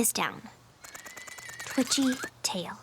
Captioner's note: rattle!